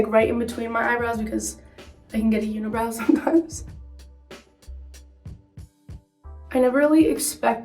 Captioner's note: chuckles